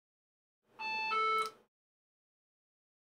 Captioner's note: beeping